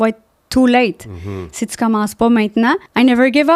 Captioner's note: in french